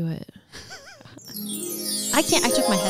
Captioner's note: chiming sounds